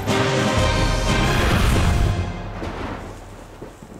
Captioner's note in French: Coups de tonnerre